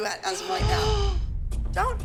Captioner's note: gasps